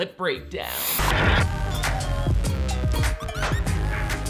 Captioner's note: static noise